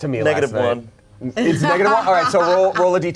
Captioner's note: laughs